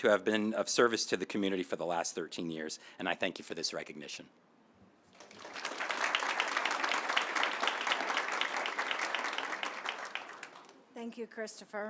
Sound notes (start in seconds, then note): 5.1 applause